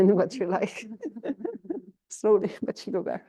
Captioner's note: laughter